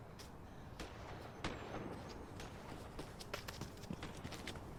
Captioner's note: guns firing